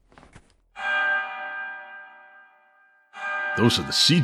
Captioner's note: bells starts alarming